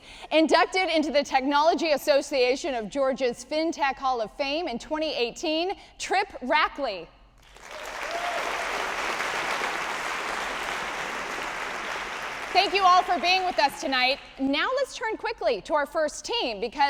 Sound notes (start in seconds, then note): 7.4 audience applauding